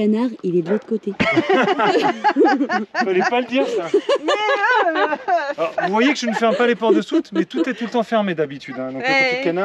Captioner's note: laughs